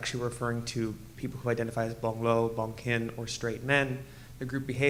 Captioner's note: speaking foreign language